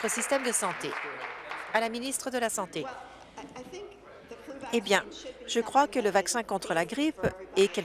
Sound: applause

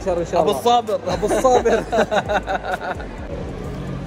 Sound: laughs

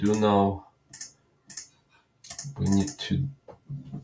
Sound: mouse clicking

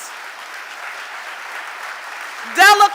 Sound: audience applauding

